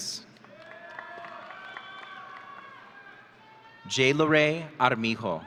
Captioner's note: audience cheering